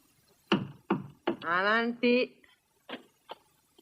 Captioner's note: knocking